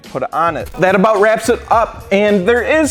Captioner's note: screen glitching